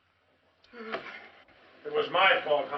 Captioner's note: frustrated huff